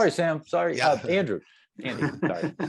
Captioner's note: laughs